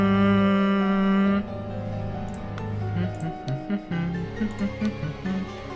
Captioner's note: hums